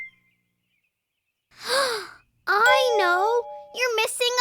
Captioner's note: gasp